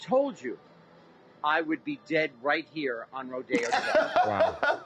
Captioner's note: laughter